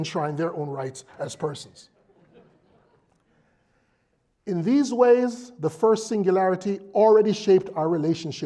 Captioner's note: laugh